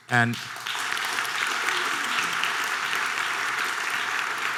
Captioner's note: audience applause